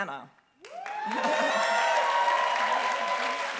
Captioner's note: applause